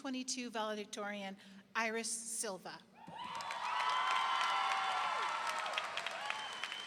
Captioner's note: generous applause ringing